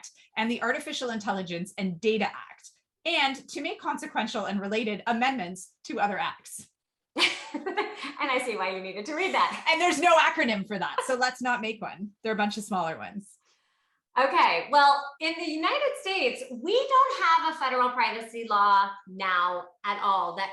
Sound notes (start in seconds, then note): 7.2 giggles